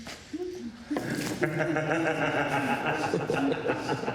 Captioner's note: all laughing